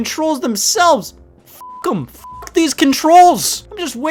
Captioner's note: beep